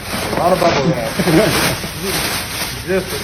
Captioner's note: man laughs